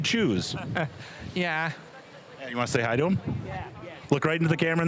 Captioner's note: chuckling